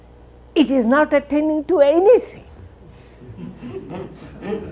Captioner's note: laughter